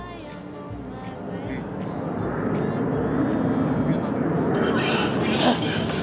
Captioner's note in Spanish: ruidos de avión